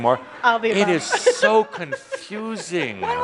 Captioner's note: she giggles